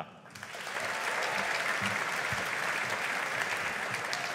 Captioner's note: audience applauding